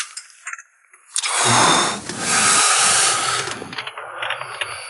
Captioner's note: John groans